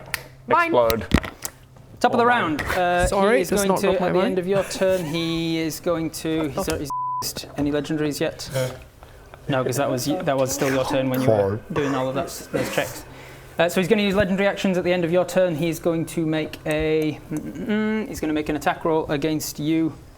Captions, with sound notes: *snap* Mine! - Explode. - *snap* Top of the round. - Sorry, I dropped my mic. - He is going to- At the end of your turn, he is going to... Oh f*ck. any legendaries yet? Nope. No, cuz that was still your turn when you were doing all of those checks. So he's going to use legendary actions at the end of your turn, he is going to make a... Mm mm mm mmm! He's gonna make an attack roll against you.